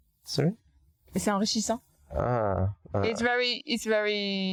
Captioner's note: speaking in foreign language